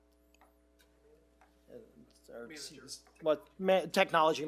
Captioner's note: members chatting indistinctly